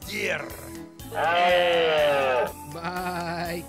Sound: roaring

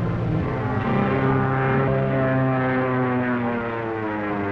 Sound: tense music; airplane buzzing

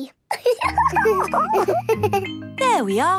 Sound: giggles

